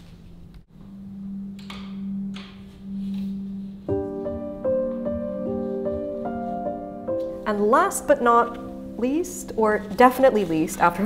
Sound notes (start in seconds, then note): 0.7 classical music; 1.5 door handle clicking